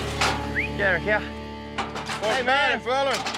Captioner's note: whistles